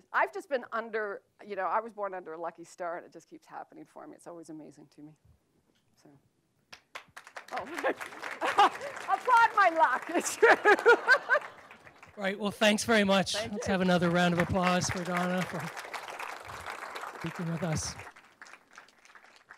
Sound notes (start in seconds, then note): 7.3 applause